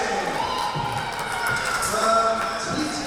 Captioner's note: crowd cheering